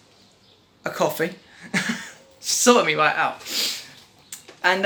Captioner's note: laughs